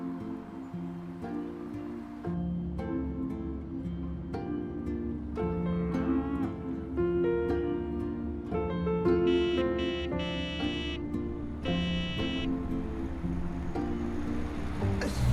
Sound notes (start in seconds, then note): 0.0 engine rumbling; 0.0 gentle music; 6.3 cow moos; 9.2 horn honking; 10.3 gentle music